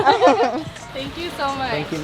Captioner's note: laughter